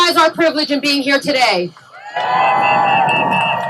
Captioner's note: cheering